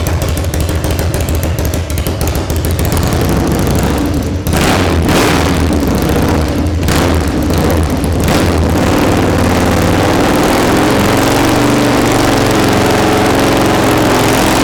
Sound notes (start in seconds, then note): 3.3 engine revving up